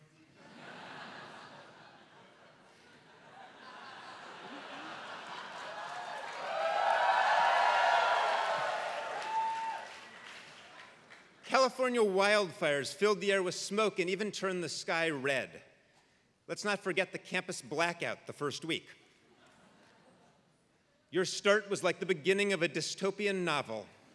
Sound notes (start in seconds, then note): 0.3 laugh; 4.8 applause